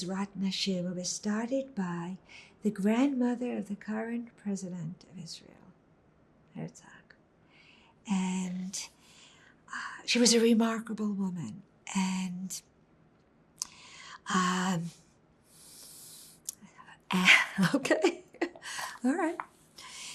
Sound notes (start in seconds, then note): 17.0 laughing